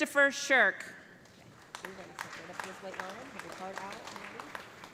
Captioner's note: applause